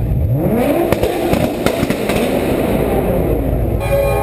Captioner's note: Nissan GTR exhaust with anti-lag